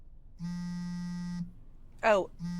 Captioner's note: phone vibrating